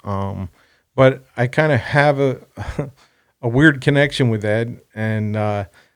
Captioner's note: laughs